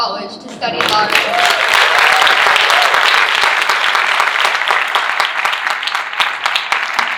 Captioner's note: audience cheering and applauding